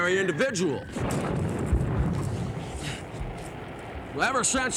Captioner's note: missiles blasting